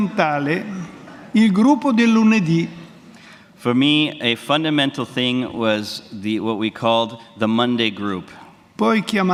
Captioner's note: speaks Italian; speaks in Italian